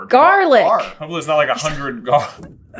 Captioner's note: laughs